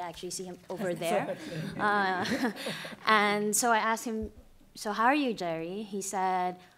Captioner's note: laughter